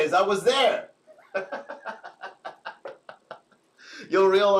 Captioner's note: laughs